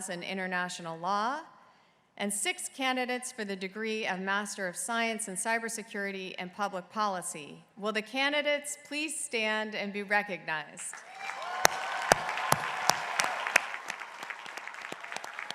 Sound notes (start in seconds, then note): 10.9 crowd applauding